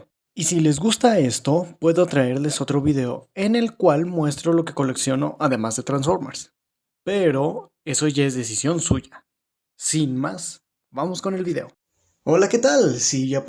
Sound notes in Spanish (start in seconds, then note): 9.4 Silencio